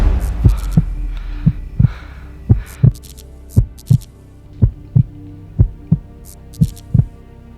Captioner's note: electricity buzzes; heart beating